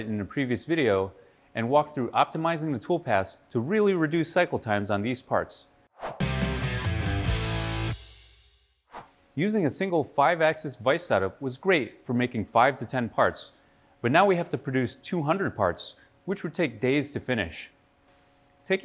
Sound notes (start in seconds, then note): 5.9 air whooshes; 6.1 upbeat music; 8.8 air whooshes